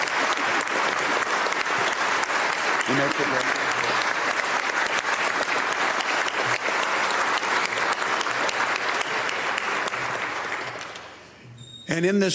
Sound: applause

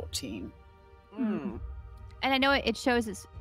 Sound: groans

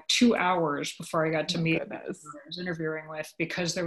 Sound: audio warps

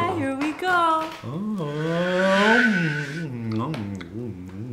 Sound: whoooosh

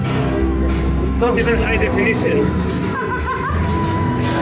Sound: laughing

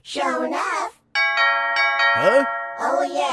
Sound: doorbell

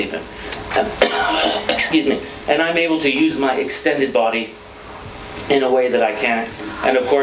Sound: coughs

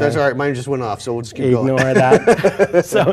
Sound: laugh

